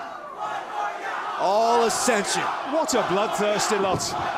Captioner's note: fans chanting